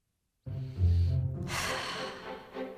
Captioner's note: whimsical music; mother sighs